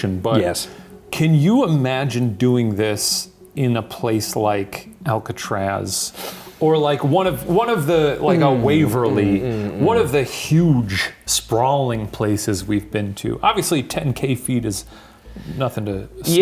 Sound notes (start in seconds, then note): 7.9 hemming; 8.1 inhaling